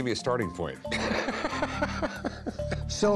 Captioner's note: laughing